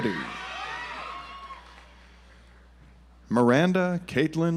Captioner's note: audience applauds